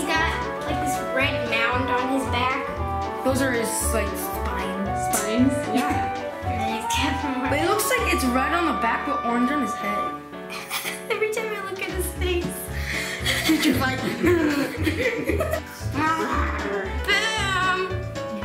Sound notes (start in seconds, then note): 13.0 laughs